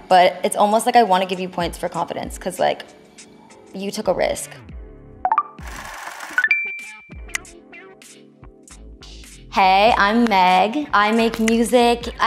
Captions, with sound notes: But it's almost like I wanna give you points for confidence 'cause like, you took a risk. (counter clicking) (numbers clicking and rolling) Hey, I'm Meg, I make music.